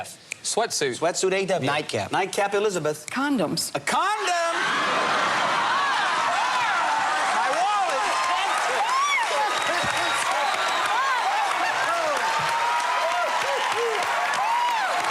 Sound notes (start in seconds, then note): 4.6 laughter; 8.8 cheers and applause; 12.2 laughter